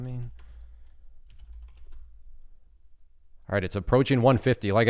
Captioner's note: keyboard clattering